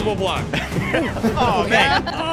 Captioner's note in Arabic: تضحك